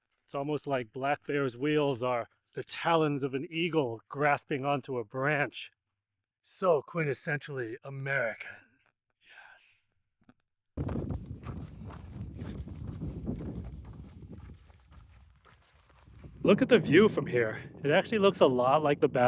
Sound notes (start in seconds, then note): 9.1 wind howling